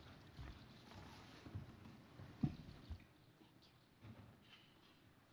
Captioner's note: none